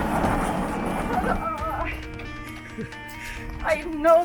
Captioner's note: chuckles